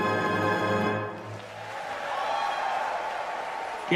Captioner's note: applause